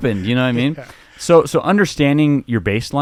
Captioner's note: laughing